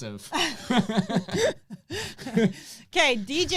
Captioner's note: laughing